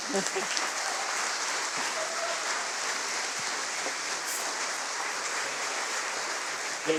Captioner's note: applause